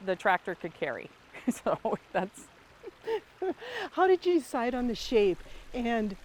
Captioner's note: laughs